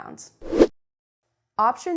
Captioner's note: air whooshing